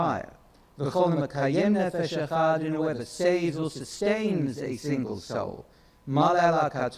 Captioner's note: speaks in foreign language